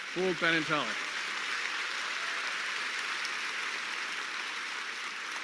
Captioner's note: hands clapping